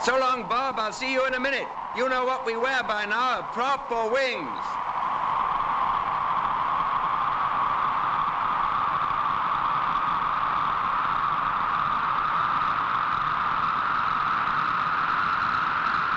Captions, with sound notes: So long, Bob, I'll see you in a minute. You'll know what we wear by now, a prop or wings. (WIND WHOOSHING)